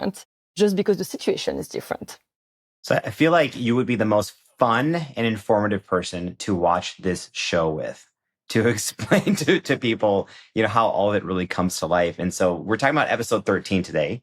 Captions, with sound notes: just because the situation is different. So, I feel like you would be the most fun and informative person to watch this show with... -(CHUCKLES) -...to explain to people, you know, how all of it really comes to life. And so we're talking about episode 13 today,